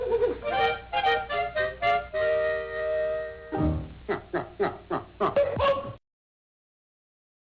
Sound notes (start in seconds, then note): 0.7 upbeat music; 4.0 male voiceover laughing